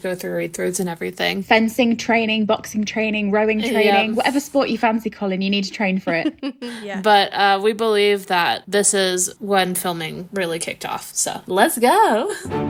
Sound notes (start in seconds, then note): 6.1 laughing; 12.4 upbeat music